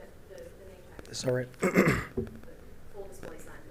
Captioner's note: clears throat